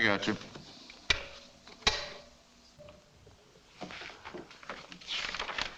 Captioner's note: intercom clicks off; paper rustling